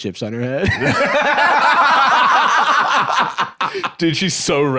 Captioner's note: both laughing